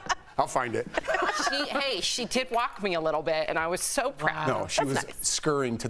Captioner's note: laughter